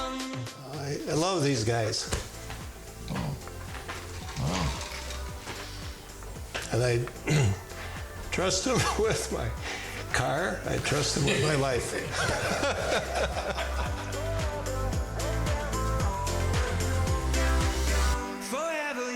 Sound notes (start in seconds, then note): 10.8 all laughing; 15.7 upbeat music ends